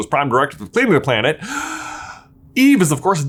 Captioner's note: gasps